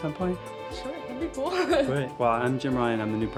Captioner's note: laughs